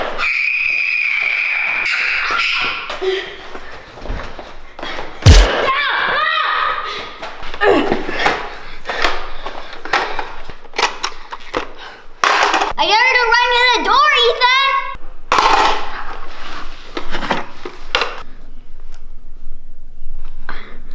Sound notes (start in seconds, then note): 0.0 screaming; 5.2 yelling